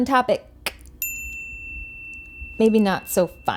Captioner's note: bell dings